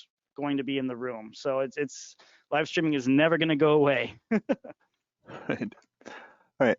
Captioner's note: laughing